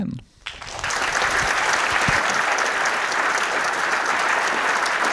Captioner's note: audience applauding